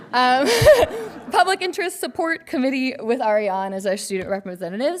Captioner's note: laughing; audience chuckling